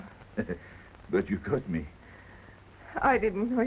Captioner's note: chuckles